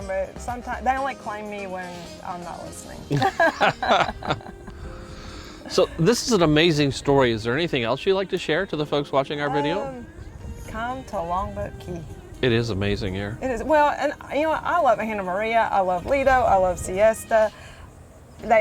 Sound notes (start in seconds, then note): 3.1 both laughing